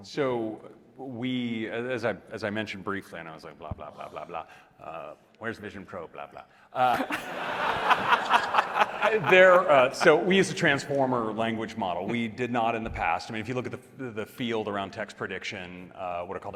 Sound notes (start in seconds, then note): 6.9 audience laughing